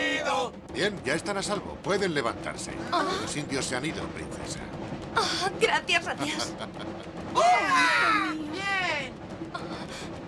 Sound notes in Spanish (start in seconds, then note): 6.2 ríe